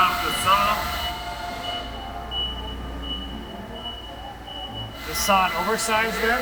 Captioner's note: machinery beeping